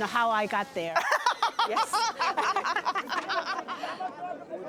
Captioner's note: laughs